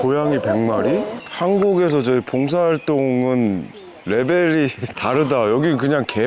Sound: laughing

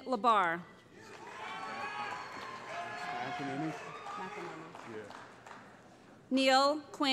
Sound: cheering

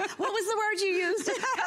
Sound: laughter

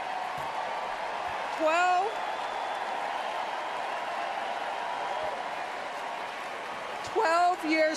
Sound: cheers

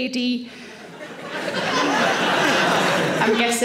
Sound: audience laughing

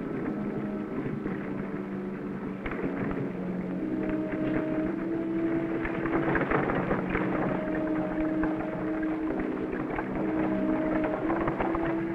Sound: wagon wheels rumbling

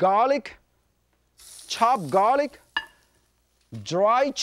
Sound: wok sizzles

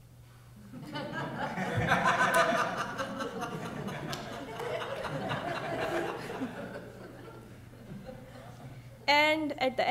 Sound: laughs; audience laughs at the meme on-screen

